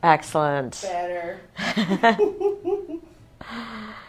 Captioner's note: laughing